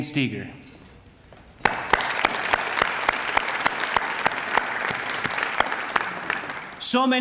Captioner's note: applause